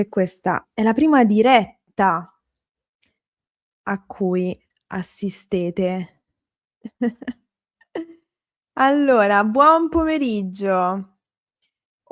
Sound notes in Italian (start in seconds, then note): 6.8 risate